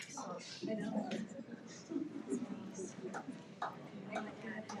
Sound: people chattering

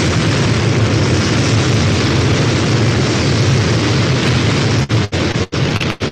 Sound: rocket noise

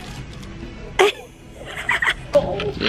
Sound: giggling

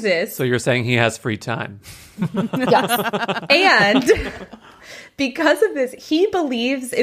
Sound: laughs

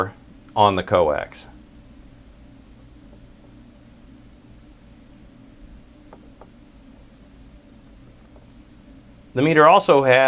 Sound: pause

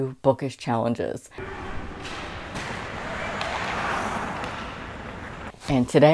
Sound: clacking ice skates

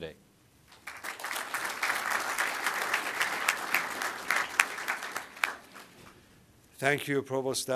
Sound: applause

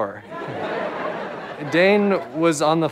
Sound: audience chuckles

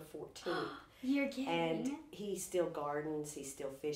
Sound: gasps

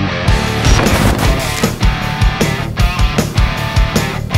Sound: static buzzing

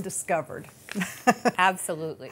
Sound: laughs

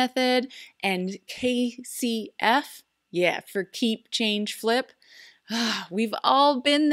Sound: sigh

